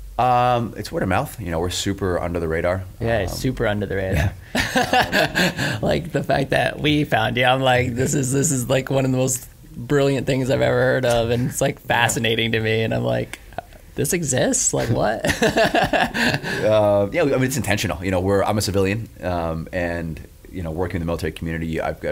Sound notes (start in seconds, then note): 4.5 laughs; 15.2 laughs